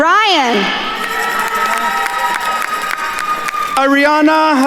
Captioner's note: attendees cheering and applauding